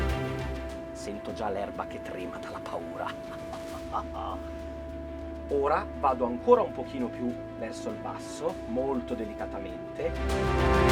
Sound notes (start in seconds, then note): 2.9 laughing